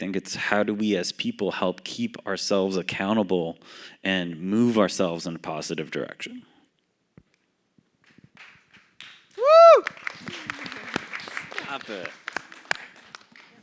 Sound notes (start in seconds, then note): 8.0 applause; 10.2 laughs